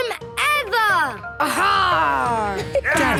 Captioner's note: laughter